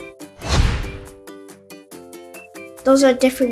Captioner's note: screen whooshes